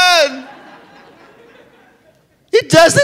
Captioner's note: laughter